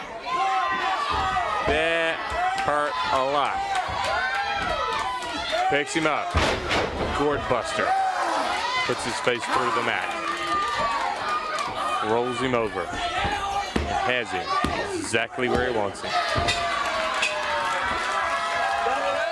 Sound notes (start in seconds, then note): 0.0 crowd cheering; 4.6 crowd cheering